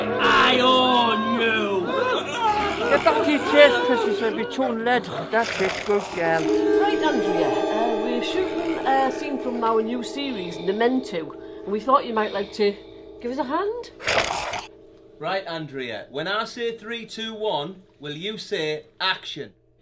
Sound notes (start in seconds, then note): 14.0 snarls